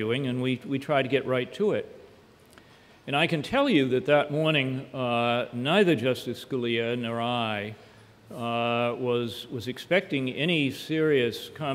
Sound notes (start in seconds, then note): none